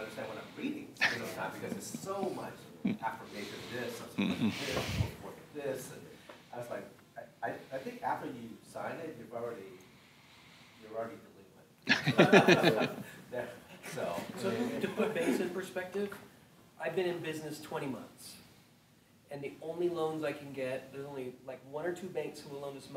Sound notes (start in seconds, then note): 1.0 laughing; 11.9 laughing